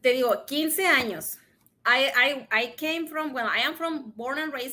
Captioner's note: speaks in Spanish